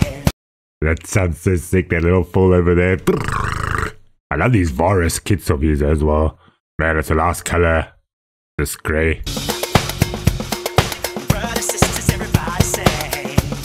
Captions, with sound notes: That sounds so sick that little fill over there (mouth Noises) I love these vorus kits of his as well, man it's a nice color this gray.